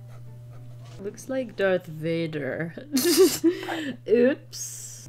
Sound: laughs

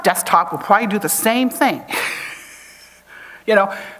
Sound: chuckles

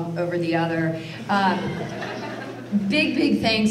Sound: audience laughter

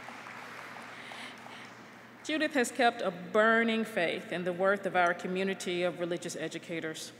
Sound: applause

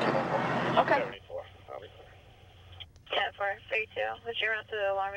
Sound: police scanner chat

